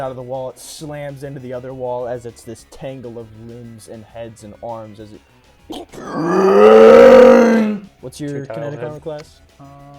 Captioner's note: roars